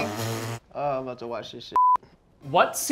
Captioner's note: beep